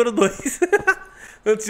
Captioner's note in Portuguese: Risos